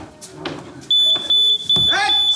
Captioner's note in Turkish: Alarm öter